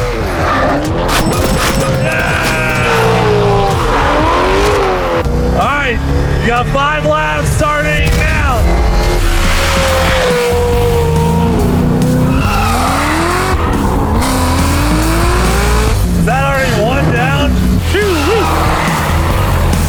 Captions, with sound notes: Yeah! All right, you got five laps starting now! (engine roaring) (tires screeching) Is that already one down? - Ooh wee!